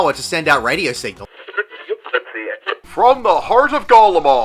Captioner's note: radio static